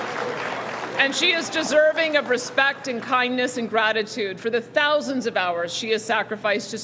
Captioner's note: cheering and Applause